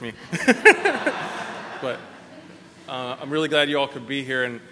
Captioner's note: laughter